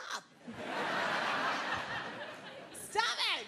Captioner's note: crowd laughing